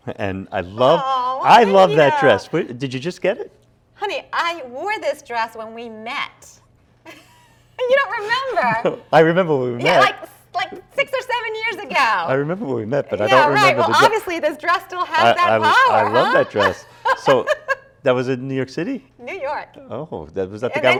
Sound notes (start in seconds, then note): 7.1 both chuckle